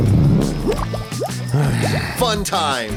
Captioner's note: fart; sighs